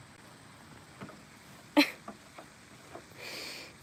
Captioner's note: laughing